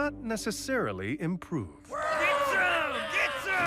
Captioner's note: crowd shouting